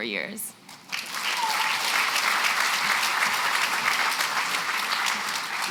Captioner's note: applause